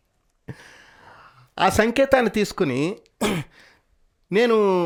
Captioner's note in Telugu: గొంతు సవరించుకోవడం